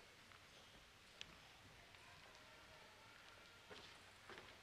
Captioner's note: none